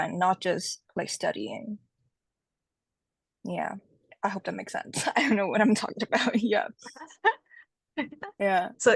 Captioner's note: both laugh